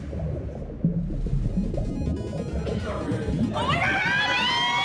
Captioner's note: water bubbles; upbeat music